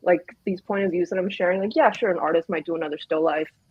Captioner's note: none